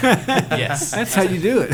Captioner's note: laughter